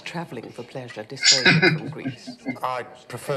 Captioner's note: chuckling